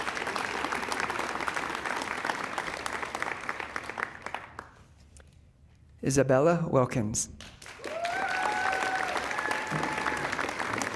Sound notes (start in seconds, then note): 1.7 applause